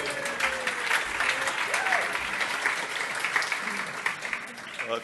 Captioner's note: applause